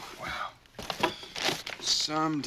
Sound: <i> groans</i>

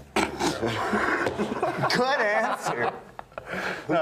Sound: men laughing

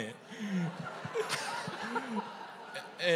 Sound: laughter

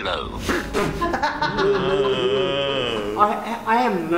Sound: break into laughter behind camera

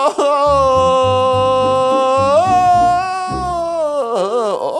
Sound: yelling

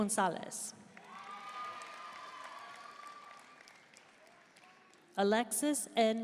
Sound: audience cheering and applauding

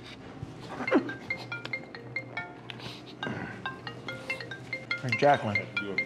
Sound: phone ringing

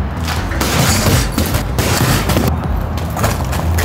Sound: safe thudding

